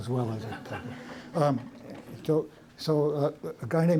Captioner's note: laughter